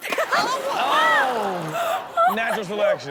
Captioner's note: shouting